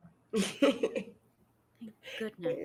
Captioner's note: chuckles